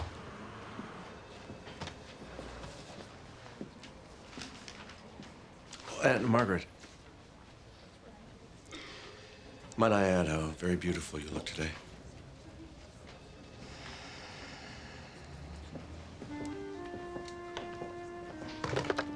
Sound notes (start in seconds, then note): 13.6 exhales